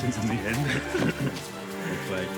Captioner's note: both laughing